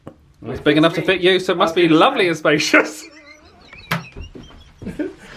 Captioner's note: laughs